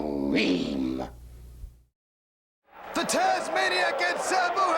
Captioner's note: crowd cheering